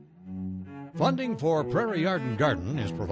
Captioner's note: male Voice